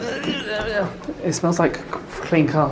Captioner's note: grunting